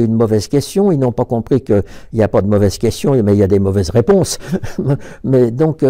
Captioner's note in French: rire